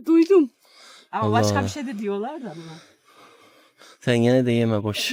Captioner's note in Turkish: homurdanır; nefes nefese kalma